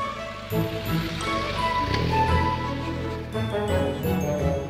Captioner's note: engine roaring